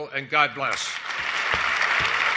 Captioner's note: applause